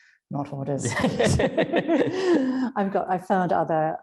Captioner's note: both laugh